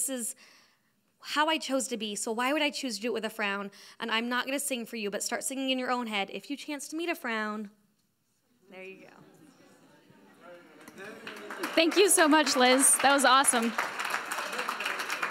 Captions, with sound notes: This is how I chose to be. So why would I choose to do it with frown? And I'm not going to sing for you, but start singing in your head, if you chance to meet a frown, there you go. (audience applauds) - Thank you so much, Liz. That was awesome.